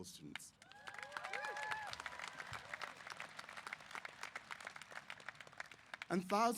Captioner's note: applause & Cheers